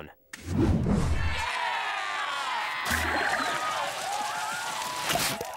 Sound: cheering

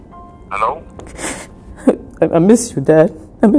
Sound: sniffles

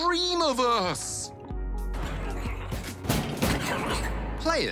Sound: whirring, crashing

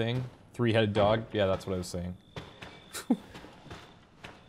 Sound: chuckles

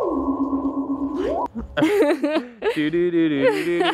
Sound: sci-Fi music; giggling

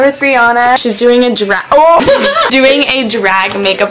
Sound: laughs

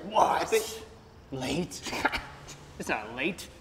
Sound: laughs

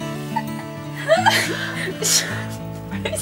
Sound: laughs

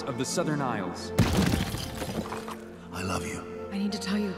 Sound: ice shattering

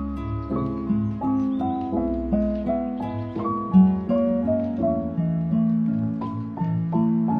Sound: licking hands

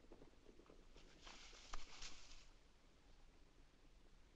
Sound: leaves rustle

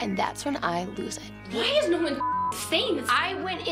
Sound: beep

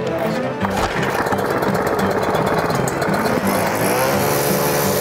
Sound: saw rumbling

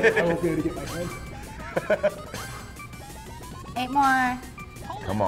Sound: laugh

